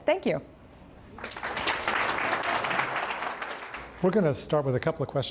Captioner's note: audience clapping